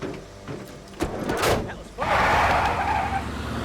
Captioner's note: doors thudding; tires screeching